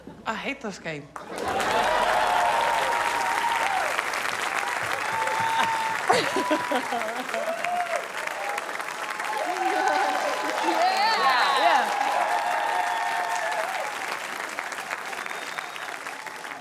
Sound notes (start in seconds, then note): 2.3 cheering, applause; 5.1 laughs